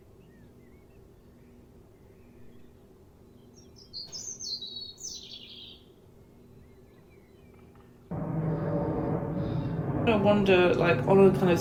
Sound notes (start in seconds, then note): 0.1 distant bird song; 8.0 breathing; 8.1 rumbling sound